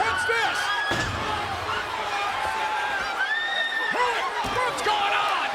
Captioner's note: crowd cheering and screaming